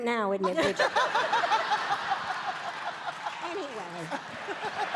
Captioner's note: audience laughing